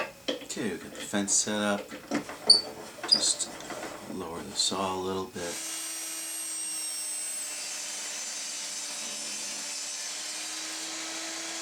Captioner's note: table saw rips